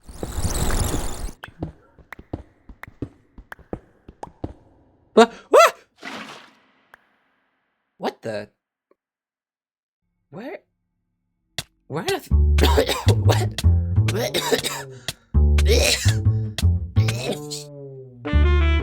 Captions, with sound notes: Digging Noises Wha, AAAH Splash What the- where where on earth- *coughing* *death noises*